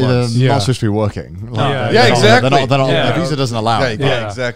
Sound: group chattering

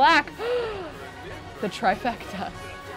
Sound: gasping

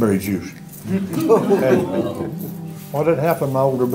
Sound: laughter

